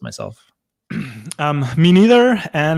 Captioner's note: clears throat